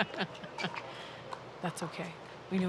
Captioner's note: laughing